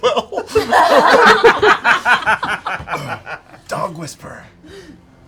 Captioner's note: laughter